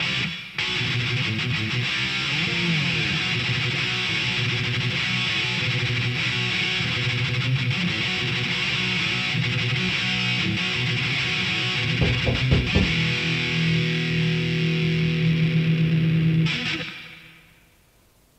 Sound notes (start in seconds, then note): 12.0 door knocking